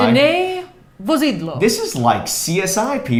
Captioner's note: speaking foreign language